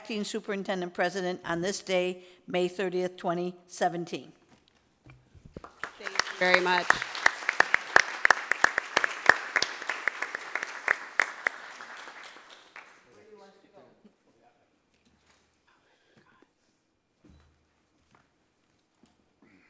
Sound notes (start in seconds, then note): 7.6 applause